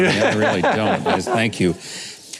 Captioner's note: laughing